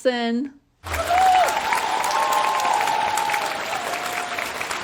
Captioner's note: audience cheering